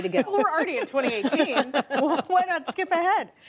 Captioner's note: laughter